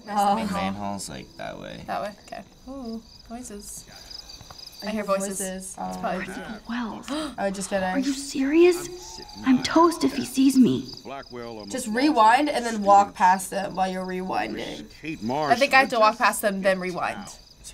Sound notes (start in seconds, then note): 6.1 gasps